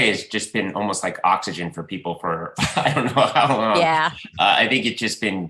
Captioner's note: laughs